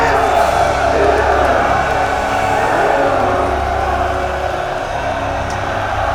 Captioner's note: men shouting and cheering